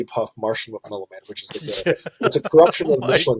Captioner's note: laughing